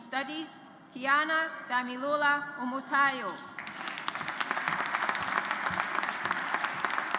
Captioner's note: audience applauds